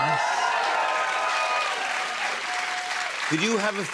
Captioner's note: cheers and applause